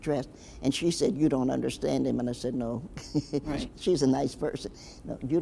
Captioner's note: chuckles